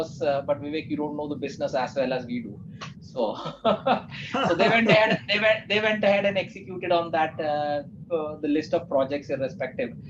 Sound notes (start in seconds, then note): 3.4 laughs